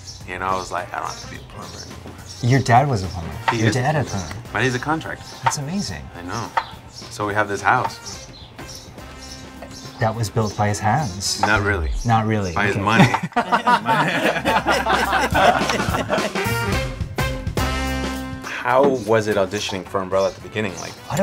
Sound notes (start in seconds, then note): 12.8 all laughing; 16.2 upbeat music